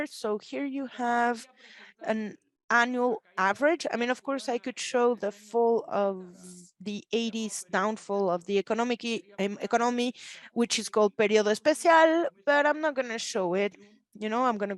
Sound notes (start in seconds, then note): 11.5 speaks Spanish